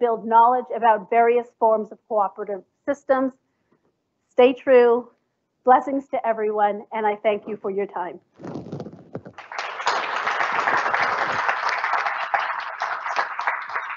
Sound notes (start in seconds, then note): 9.1 applause